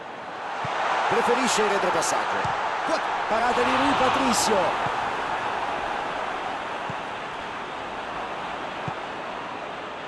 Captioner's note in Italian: Applauso